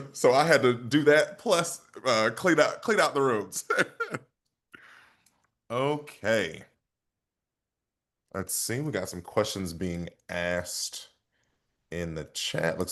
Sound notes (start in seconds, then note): 3.5 chuckles